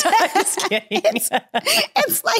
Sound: both laughing

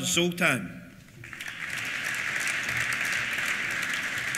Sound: applause

